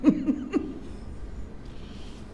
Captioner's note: laughs